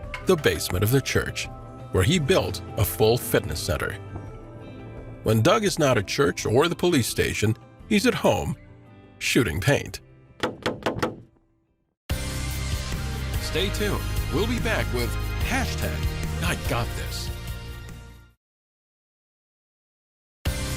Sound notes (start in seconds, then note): 10.3 paint splattering; 12.2 bright digital music